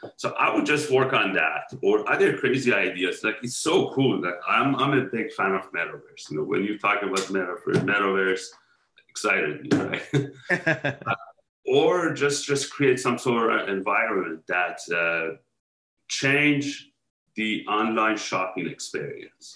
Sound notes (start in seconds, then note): 9.9 laughing